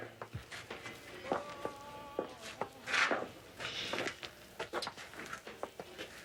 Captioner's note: footsteps clacking over muffled blues music